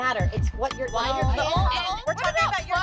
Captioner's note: chatter